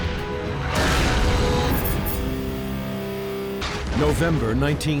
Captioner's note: tank turret fires; tank explodes